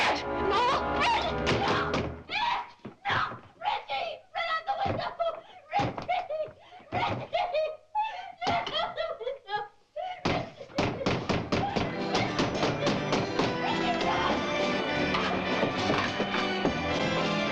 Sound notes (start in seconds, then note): 10.1 sobbing, Pounding On Door; 12.2 sobbing, Pounding Continue